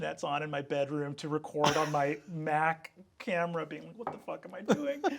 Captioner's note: Sam chuckling; Sam laughing